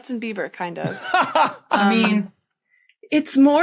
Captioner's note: belly laughs